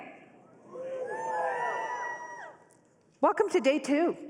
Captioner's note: cheering